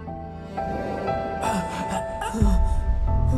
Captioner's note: groaning